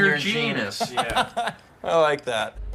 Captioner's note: laughs